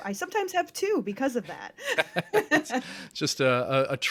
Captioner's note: chuckles